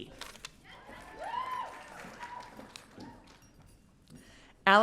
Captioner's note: audience cheering